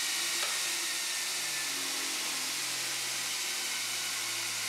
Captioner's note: the whirring sound of the grinder slowly fades away